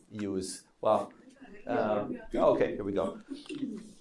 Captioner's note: faintly speaking